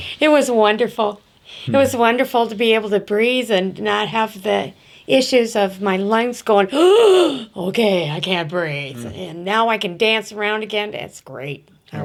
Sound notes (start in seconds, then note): 6.7 gasps